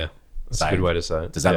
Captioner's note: laughs